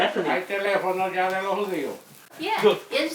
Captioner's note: asking question in Spanish